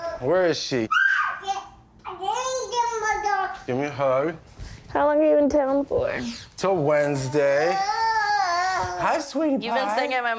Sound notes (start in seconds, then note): 0.9 screams; 2.5 cooing